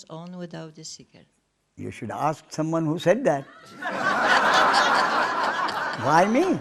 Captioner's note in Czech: smích